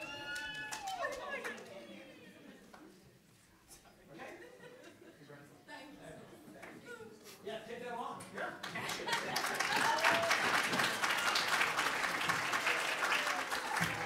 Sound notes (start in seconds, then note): 0.9 audience chatters as pose for a photo; 8.6 audience claps as exits the stage